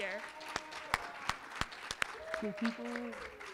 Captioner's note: applause